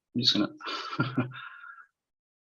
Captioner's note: chuckles